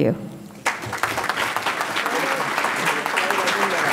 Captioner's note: audience clapping